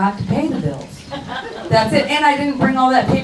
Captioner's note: crowd laughs